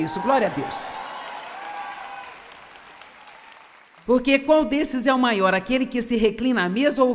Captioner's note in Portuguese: audiência aplaude